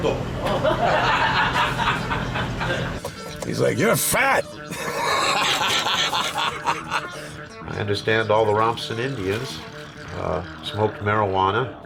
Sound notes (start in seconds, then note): 0.4 laughter; 5.3 laughs